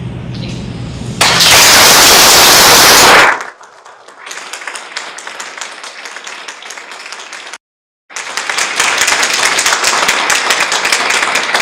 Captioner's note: clapping